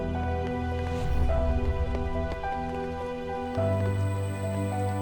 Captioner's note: raindrops pattering